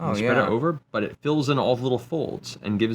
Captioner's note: none